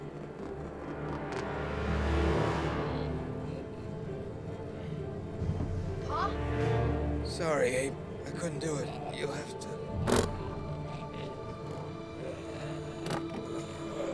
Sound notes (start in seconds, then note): 11.0 clatter; 12.1 groaning